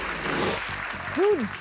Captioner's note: audience clapping